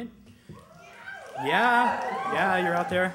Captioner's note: cheers